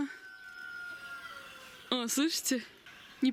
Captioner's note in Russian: кукареают